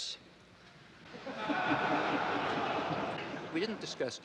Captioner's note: audience laughing